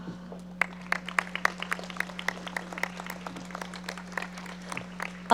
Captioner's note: audience applauding